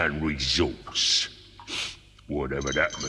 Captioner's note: sniffs